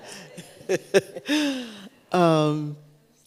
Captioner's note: laughs